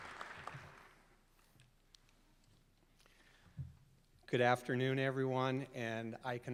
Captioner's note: applause